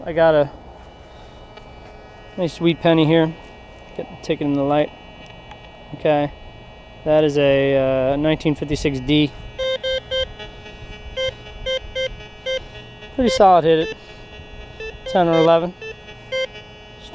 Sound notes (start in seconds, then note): 8.6 detector beeps